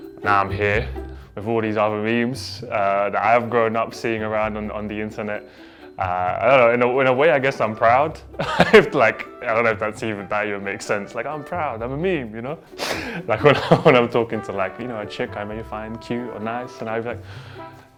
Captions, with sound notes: Now I'm here before these other memes that I've grown up seeing around on the internet. I don't know. In a way, I guess I'm proud. (chuckles) Like, I don't know if that's even valid it makes sense. Like "I'm proud. I'm a meme." You know? (wheezes) Like when I'm talking to, like, you know, a chick I may find cute or nice and I'd be like,